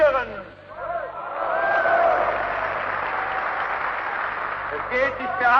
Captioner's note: applause